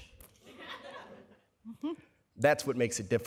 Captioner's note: laughter